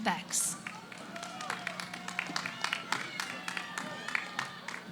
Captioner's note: cheering